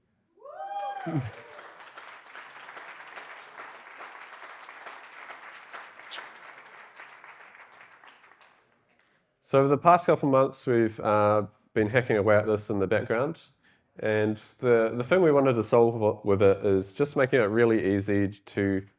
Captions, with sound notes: (audience applauding) So over the past couple months, we've been hacking in the background. And the thing we wanted to solve with it is just making it really easy to,